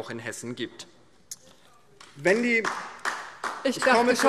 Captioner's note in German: Beifall DIE LINKE